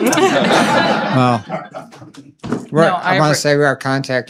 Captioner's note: laughter